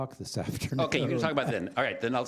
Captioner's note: chuckling